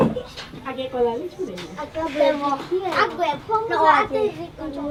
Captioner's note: foreign language